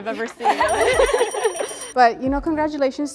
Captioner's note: women laugh; bell rings